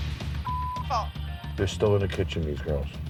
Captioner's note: beep